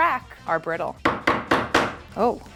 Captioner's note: pin pounding